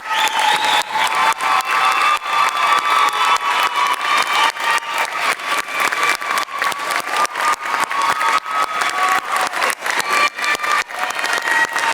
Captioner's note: crowd cheering